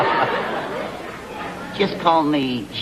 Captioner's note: laughter